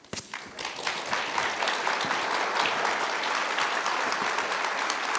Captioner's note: applause